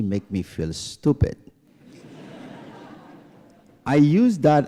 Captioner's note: laughter